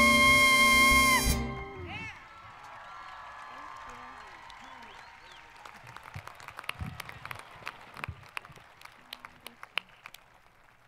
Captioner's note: applause